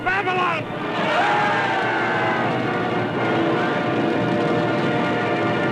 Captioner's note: yelling, grandiose music